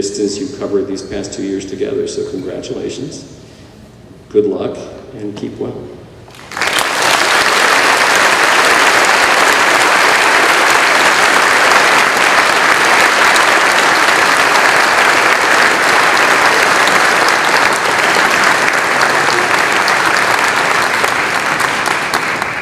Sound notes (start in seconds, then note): 6.3 applause